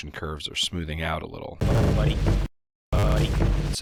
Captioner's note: game sounds